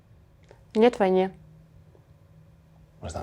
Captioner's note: speaking Russian